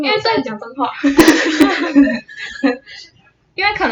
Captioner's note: laughter